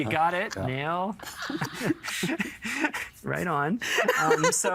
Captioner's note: chuckling